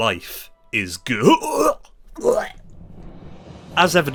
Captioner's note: retches